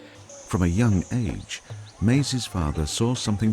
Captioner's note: voiceover